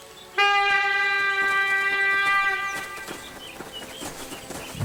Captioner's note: A hunting horn blows